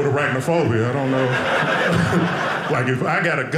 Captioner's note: audience laughing